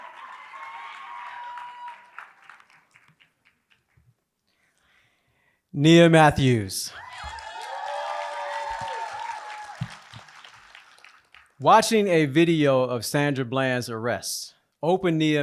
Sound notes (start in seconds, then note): 7.0 applause